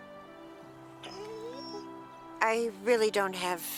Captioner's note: Buck whines